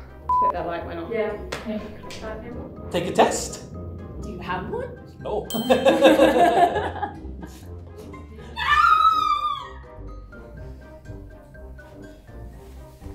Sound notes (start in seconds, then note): 5.6 actors laugh; 8.4 screams